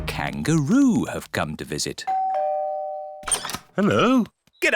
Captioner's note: doorbell rings